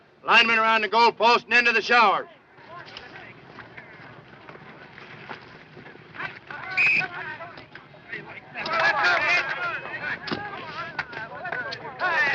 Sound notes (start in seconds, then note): 6.7 whistle blows; 7.7 people chattering indistinctly